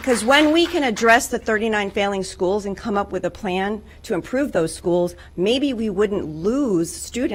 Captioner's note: applause